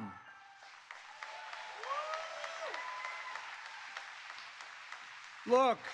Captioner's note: applause